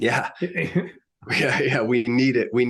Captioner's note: chuckles